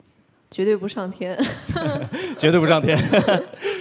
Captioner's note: chuckles; laugh